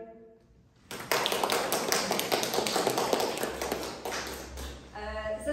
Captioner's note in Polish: oklaski